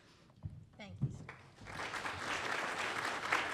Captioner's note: applause